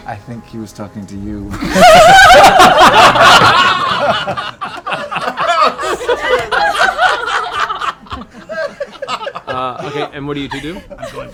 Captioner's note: laughter